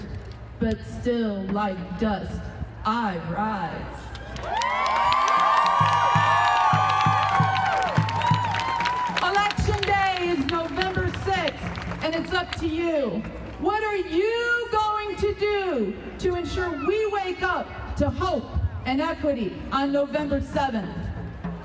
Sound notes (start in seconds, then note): 4.2 crowd cheering